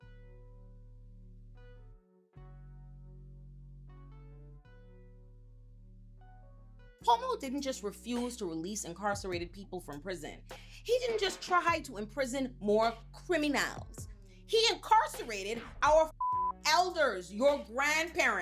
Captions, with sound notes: (soft music) Cuomo didn't just refuse to release incarcerated people from prison. He didn't just try to imprison more criminals. He incarcerated our (beep) elders, your grandparents.